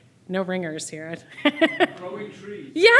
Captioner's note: laughs